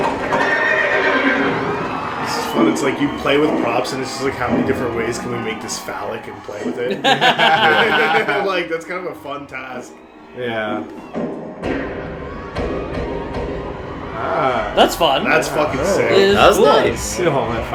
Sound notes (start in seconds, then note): 6.8 laughter